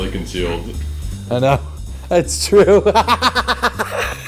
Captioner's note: laughs